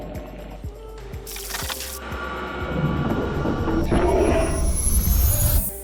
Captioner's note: chill music; food sizzling; suspenseful music